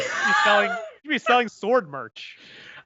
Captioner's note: laughs